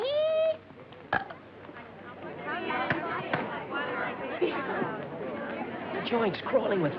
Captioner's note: yodeling; burp